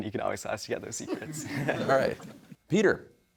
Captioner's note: audience laughing